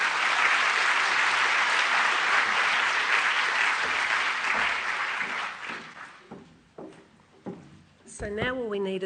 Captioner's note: applause